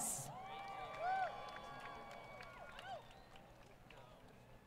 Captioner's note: applause